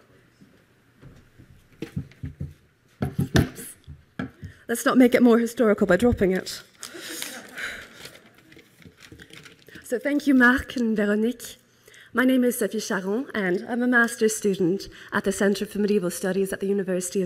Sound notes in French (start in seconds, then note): 6.9 Le rire